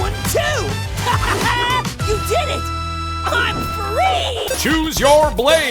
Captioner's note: laughing